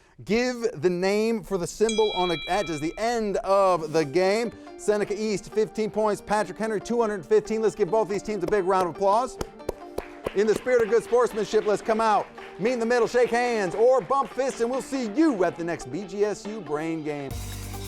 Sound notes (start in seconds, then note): 1.8 bell rings; 9.6 audience applauds; 17.6 upbeat music